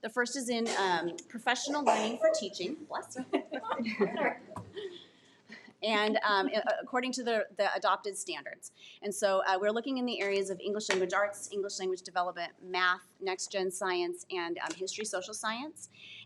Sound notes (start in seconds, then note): 3.1 laughs